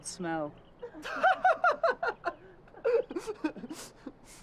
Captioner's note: laughing